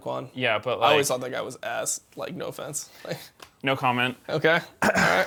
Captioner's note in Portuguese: risos